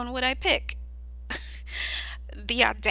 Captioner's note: laughs